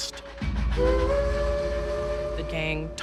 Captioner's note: train horn blowing